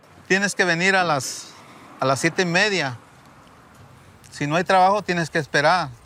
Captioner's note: speaking in Spanish